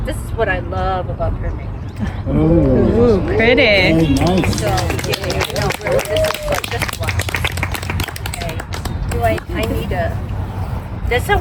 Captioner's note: applause